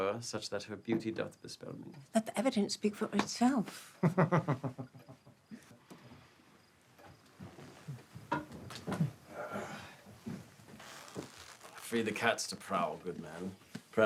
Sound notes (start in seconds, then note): 4.0 William laughs